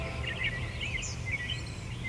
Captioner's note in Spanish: sonido pájaros